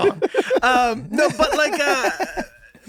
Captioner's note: Rob laughs